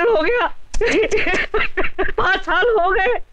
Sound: crying

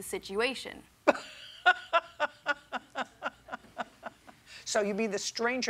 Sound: laughs

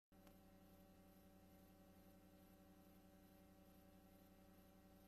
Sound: VHS static

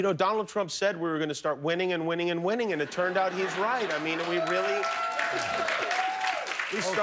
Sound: cheers and applause

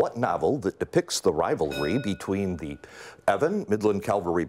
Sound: bell rings

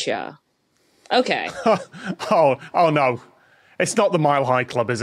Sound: laughs

